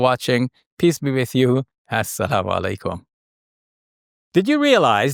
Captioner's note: speaks foreign language